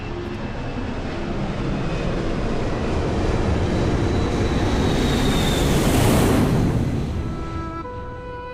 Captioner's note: Engine roars